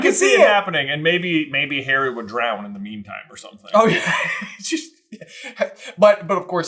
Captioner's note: laughs